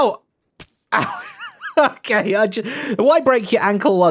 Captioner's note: laughs